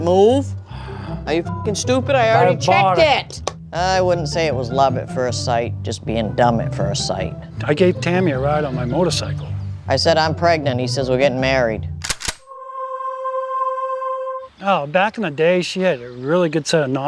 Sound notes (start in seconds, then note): 12.0 shotgun cocks